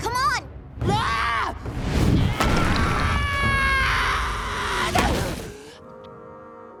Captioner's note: Sokka screaming